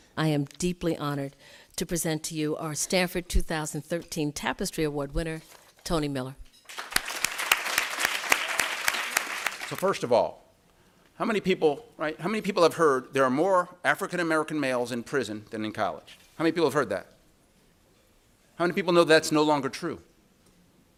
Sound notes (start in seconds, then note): 6.6 applause